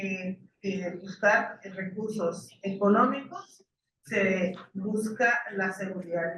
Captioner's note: speaking in foreign language continues